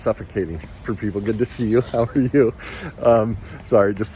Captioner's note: laughs